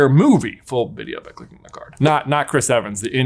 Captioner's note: whispers